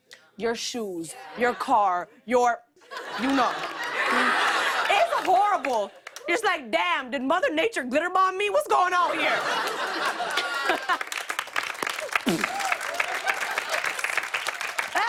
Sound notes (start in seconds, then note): 9.0 laughter; 10.0 applause; 12.2 imitates explosion